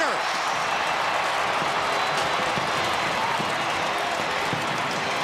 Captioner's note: cheering